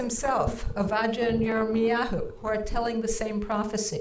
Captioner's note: speaking in foreign language